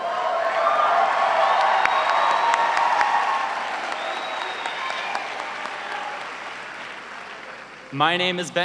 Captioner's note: cheering and applause